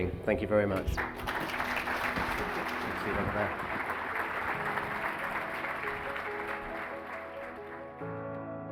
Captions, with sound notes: Thank you very much. (applauding) (mellow music)